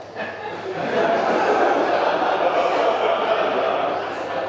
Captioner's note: audience laughing